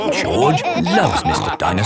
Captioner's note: all laughing